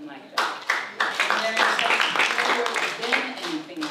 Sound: applause

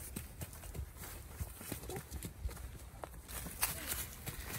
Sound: foot steps

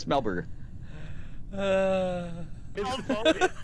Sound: sighs; laughter

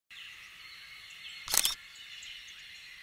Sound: click of camera

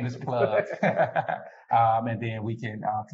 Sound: laughter

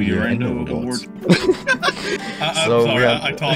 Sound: both Laughing

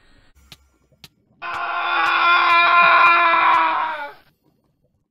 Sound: scream intensifies

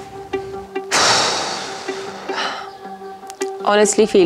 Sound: exhale

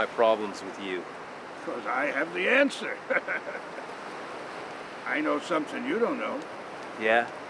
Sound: laughs

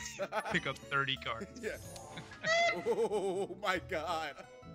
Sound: laugh

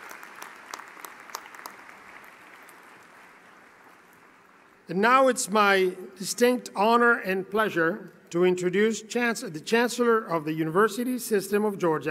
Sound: cheering and Applause

